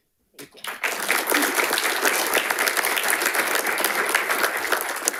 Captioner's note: audience applauding